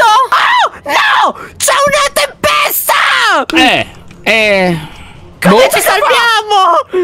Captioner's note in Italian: esitante